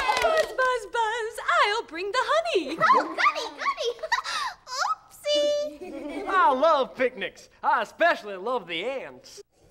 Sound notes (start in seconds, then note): 0.0 cheering; 3.9 giggling; 5.8 laughing